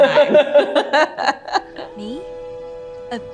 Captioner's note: Meryl and Emily laughing